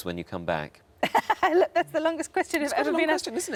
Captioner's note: laughs